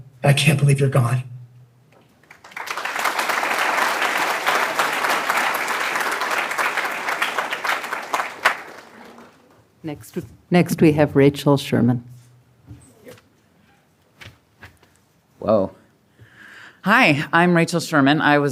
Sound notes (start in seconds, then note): 2.1 applause